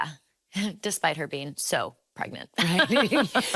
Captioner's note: chuckles